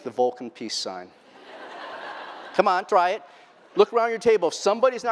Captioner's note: laughter